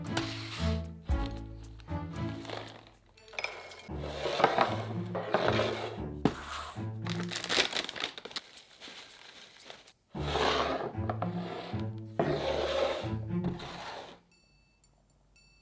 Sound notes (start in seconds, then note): 2.4 nuts dropping; 7.0 bag rustling